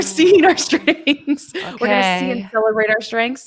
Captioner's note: laughs